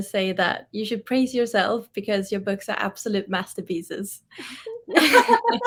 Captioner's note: laughs